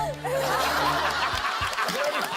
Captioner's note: laughs